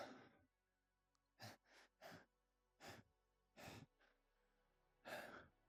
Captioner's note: heavy breathing; fast breathing; followed by more heavy breathing